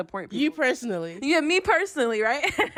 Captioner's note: laughter